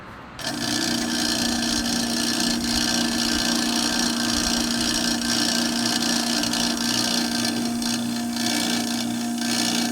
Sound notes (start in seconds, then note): 0.4 diesel pump noise